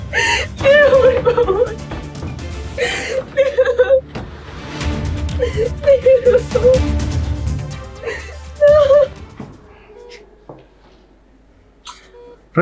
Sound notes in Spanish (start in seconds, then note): 0.6 risas; 5.8 risas